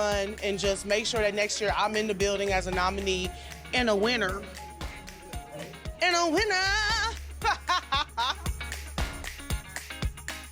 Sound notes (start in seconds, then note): 7.4 laughs